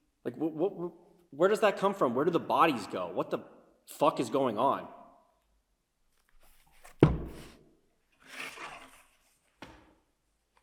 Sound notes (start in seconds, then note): 6.8 book thuds